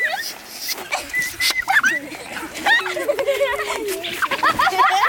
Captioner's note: children laughing and squealing